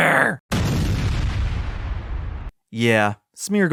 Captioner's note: explosion